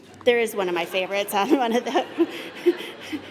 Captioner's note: laughter